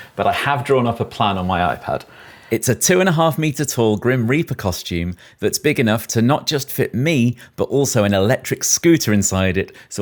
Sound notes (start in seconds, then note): none